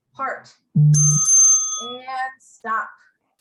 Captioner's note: bell rings